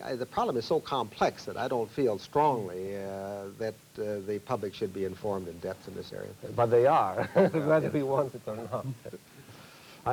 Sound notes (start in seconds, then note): 7.2 laughs